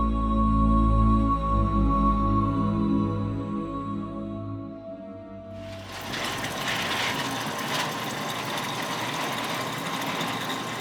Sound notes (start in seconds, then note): 5.8 water gurgling